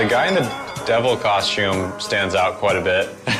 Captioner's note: chuckles